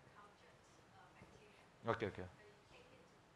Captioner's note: faintly speaking